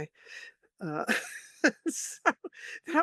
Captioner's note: laughs